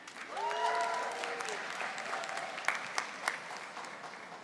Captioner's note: audience applauding